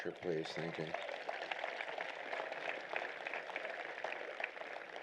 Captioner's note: applause